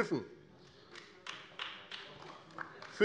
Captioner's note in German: Beifall AfD